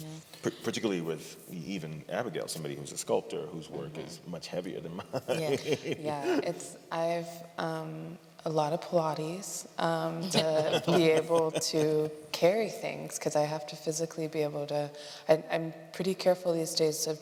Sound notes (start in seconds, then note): 5.0 laughter; 10.2 laughter